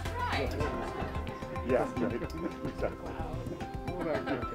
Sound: chuckles

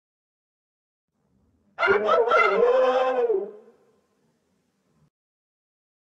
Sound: sound of parrot

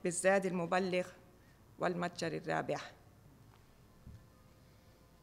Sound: speaking foreign language

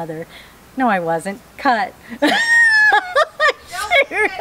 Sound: laughter

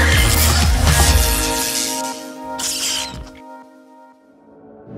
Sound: electricity crackling

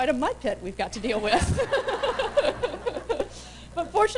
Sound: laughter

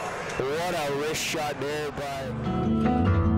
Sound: voice fades away

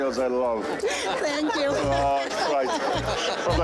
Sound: laughs

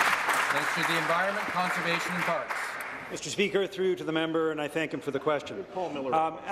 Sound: applause

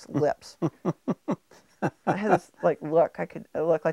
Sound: laughing

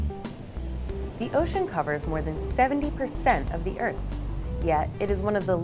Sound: voiceover

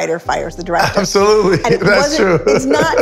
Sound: laughs

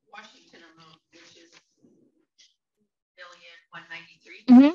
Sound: faintly speaking; faintly speaking

